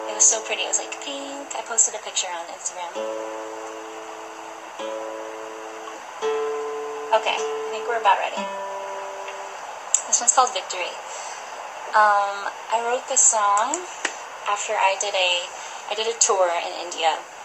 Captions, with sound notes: It was pretty. It was like pink- I posted a picture on Instagram. [Tuning guitar] [Tuning guitar] Okay, I think we're about ready. [Tuning guitar] [Tuning guitar] This one's called, 'Victory'. [Background ocean sounds] Um. I wrote this song, after I did a- I did a tour in India.